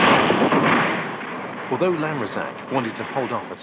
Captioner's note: guns firing; bombs exploding